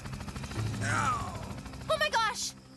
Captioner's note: groaning